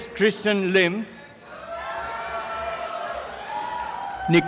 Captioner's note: applause and cheering